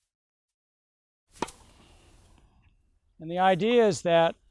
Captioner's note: racquet hitting ball